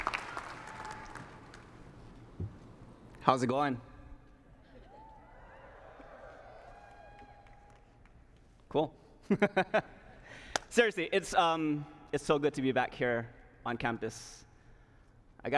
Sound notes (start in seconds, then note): 4.8 cheers; 9.6 laughs